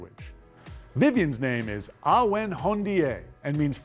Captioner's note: speaking Haudenosaunee